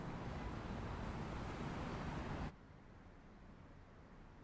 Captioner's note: traffic hums in distance